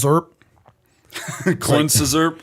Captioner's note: chuckle